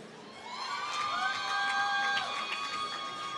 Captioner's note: applause